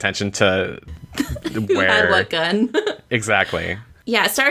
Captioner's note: laughs